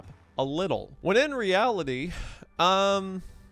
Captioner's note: sighs